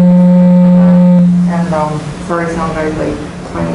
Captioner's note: loud beeping noise from microphone feedback